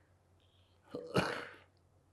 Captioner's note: coughing